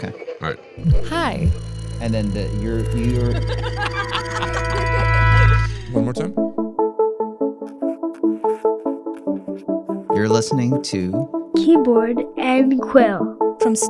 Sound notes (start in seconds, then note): 3.4 group laughing; 6.9 upbeat music